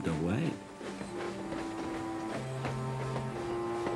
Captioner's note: train puffing